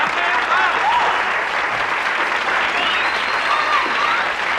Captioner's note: audience applauding